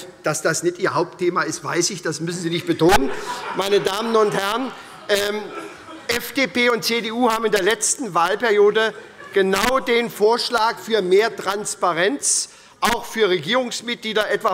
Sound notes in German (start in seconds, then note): 4.5 Heiterkeit bei der SPD